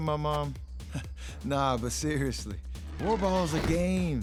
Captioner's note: laughs awkwardly